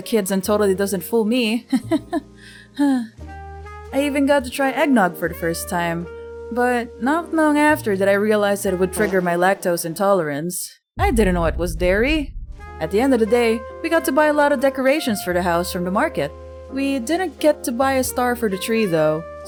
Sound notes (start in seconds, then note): 2.4 sigh